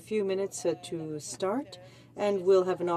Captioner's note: speaking in French